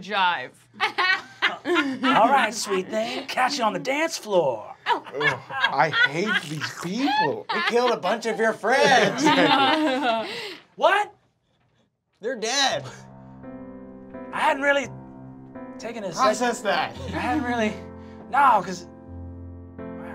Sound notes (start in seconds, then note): 0.8 laughing; 13.1 somber music